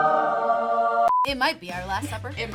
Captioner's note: angelic choir; beep